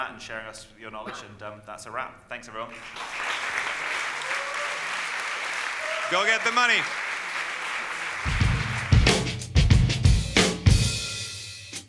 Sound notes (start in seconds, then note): 2.7 audience applauding; 8.2 upbeat energetic music